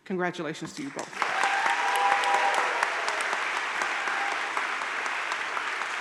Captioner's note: audience cheering and applauding